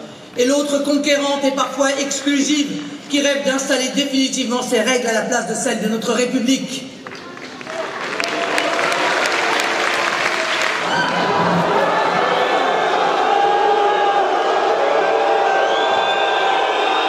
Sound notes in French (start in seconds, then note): 7.0 Applaudissements